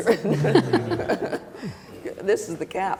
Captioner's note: laughter